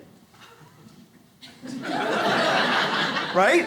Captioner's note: audience laughs